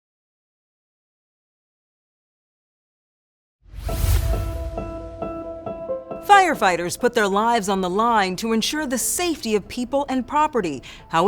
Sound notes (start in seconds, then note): 3.7 air whooshes; 5.3 bright music